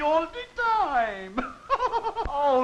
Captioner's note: laughs